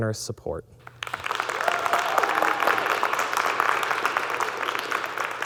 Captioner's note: audience clapping